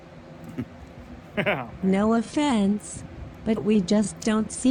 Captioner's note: chuckles